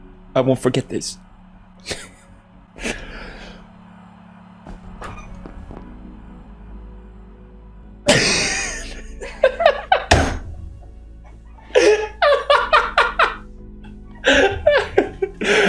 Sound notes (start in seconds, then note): 2.8 sigh of relief; 2.8 inhale; 8.4 exhale turns into laughter; 11.6 long laugh